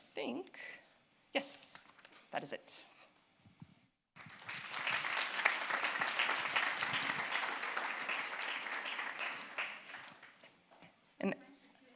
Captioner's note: applause